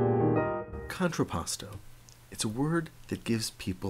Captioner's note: jazz piano; voiceover